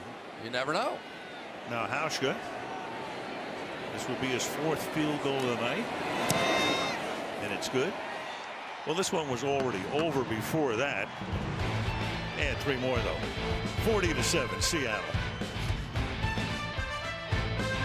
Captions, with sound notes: But you never know. Now, Hauschka. This will be his fourth field goal of the night. And it's good. [cheering] Well, this one was already over before that. [upbeat music] Add 3 more though. 40 to 7, Seattle.